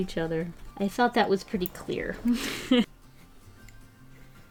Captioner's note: laughs